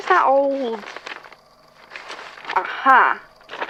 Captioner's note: papers shuffling